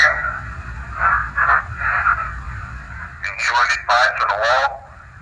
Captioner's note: ghostly voice